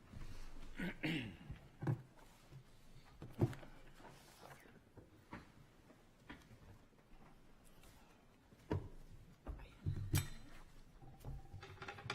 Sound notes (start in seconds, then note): 0.7 clears throat